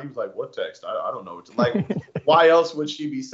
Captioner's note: laugh